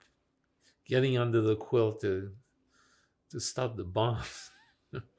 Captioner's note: laughing